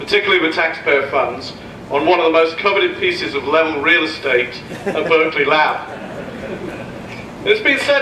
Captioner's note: laughs